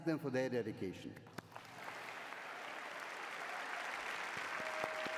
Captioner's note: applause